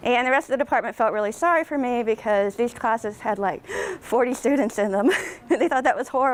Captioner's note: gasp; laughs